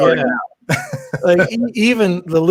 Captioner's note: laughing